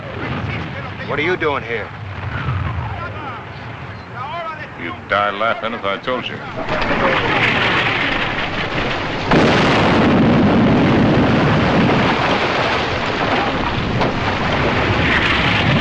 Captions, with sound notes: - No. - What are you doing here? You'd die laughing if I told you. [ Shell Incoming ]